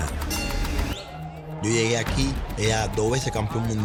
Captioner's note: bell dings